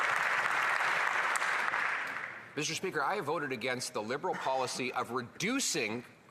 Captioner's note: applause